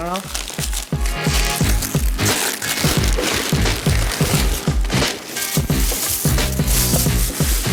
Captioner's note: wrapper crinkling; upbeat music